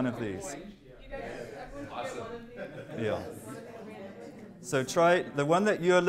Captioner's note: chatter